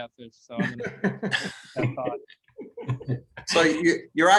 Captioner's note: laughter